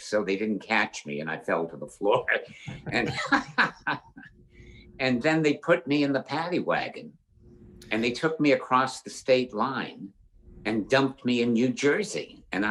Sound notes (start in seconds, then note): 2.1 laughs